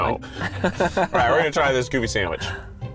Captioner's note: laughing